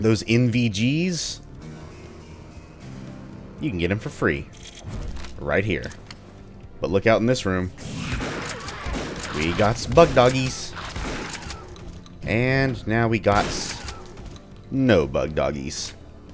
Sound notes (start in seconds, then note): 1.4 riff plays; 7.8 Bugdogs snarl, Shotgun blasting; 13.8 boom